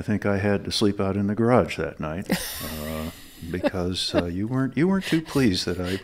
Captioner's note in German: lacht